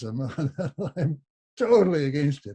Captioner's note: laughs